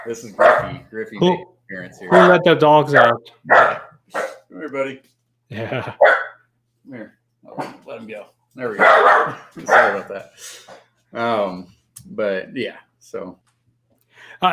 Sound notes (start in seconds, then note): 6.2 barking